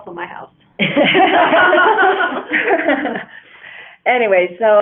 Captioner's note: laughter